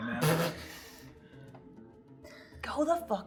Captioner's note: laughing